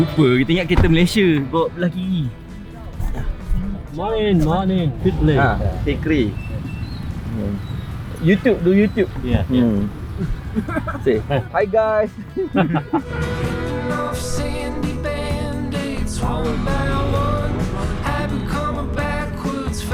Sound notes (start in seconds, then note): 13.0 laugh; 13.5 background music